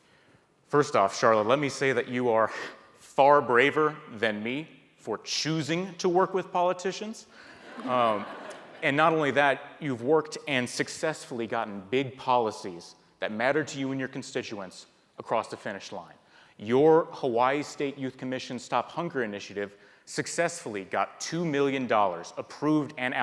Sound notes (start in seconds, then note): 7.6 audience laughs